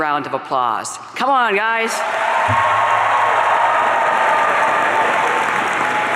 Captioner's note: audience cheering